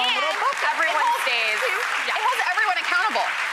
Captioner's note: applause